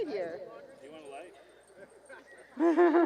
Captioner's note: off mic